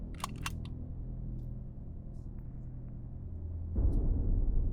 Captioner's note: gun clicks